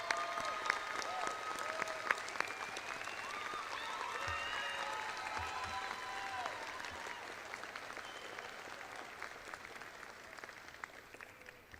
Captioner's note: audience applauds